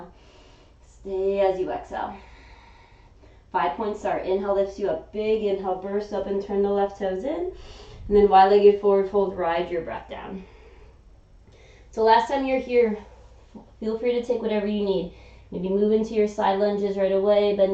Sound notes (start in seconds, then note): 0.2 inhaling; 2.2 exhaling